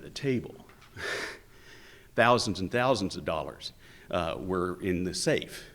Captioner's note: chuckles